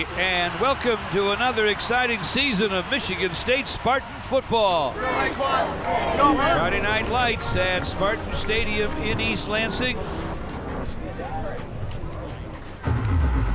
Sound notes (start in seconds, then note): 5.0 crowd murmuring; 10.1 crowd cheering; 12.7 intense music